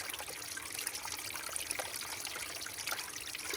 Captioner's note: water trickles